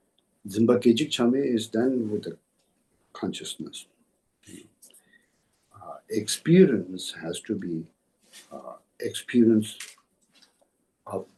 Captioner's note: tibetan